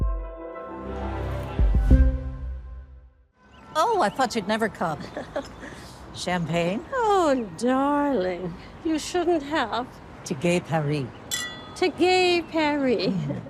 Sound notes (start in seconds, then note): 5.1 chuckles; 11.3 glasses clink